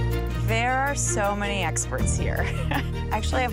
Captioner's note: upbeat music; laughs